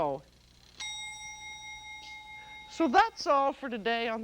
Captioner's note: alarm dings